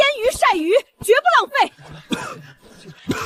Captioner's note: cough cough